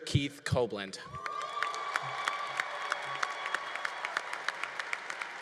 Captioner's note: congregation applauding